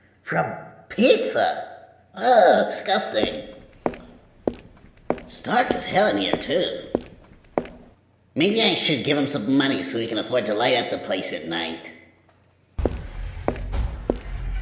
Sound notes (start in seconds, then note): 5.3 more footsteps